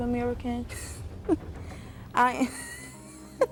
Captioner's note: laughs